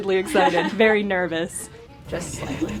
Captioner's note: laughing